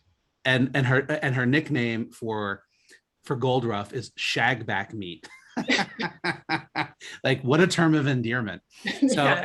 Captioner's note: both laugh